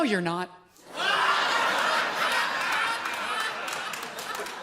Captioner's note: audience laughs loudly